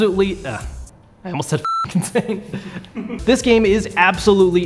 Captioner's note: beep